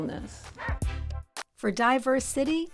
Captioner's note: music and barking